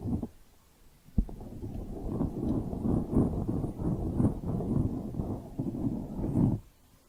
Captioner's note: mic scratching; circular mic scratching